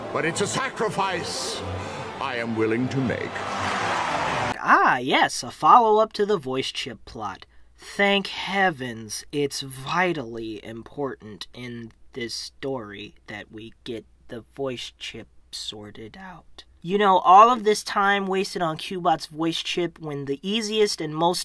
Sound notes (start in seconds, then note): 3.6 thunderous applause